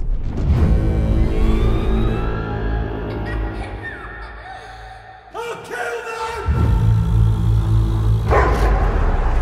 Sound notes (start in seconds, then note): 0.0 ominous music plays; 0.5 dragon screeches; 3.0 children giggling; 8.2 barks